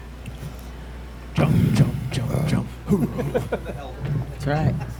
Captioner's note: laughs